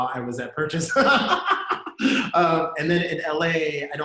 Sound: laughs

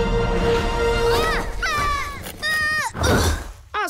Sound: screams

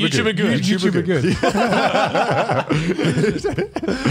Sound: laughs

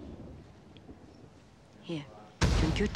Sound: bang

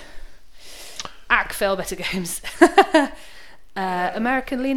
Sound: laughs

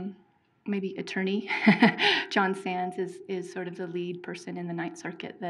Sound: laughing

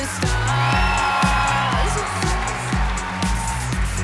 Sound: cheering

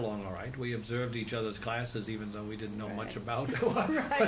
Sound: laughs

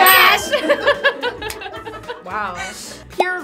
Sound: laughing

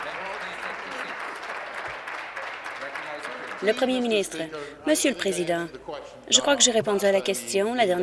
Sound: applause

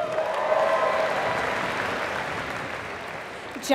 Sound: applause

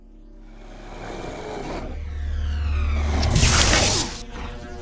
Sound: electronux hums

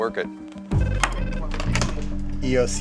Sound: phone rings

